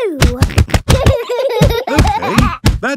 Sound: banging

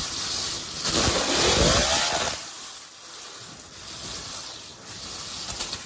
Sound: water sputters as motor speeds up

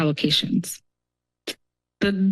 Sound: pause

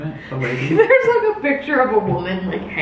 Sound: laughs

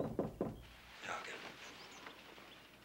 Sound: knock knock

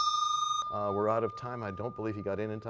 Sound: bell rings, time expires

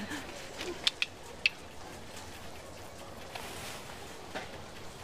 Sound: clicks tongue

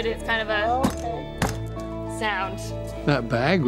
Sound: thudding

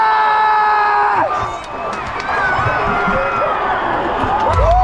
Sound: crowd cheering

